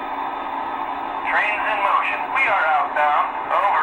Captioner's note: voiceover